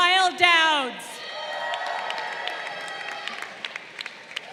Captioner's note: crowd cheering